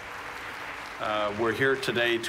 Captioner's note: applause